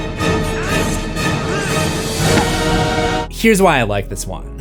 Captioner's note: screams